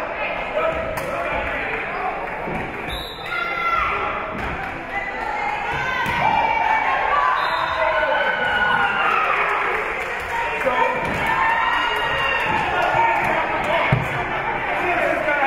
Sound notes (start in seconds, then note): 2.8 whistle being blown; 5.0 spectators shouting encouragements; 7.3 spectators cheering; 7.3 whistle being blown; 7.8 spectators cheering and applauding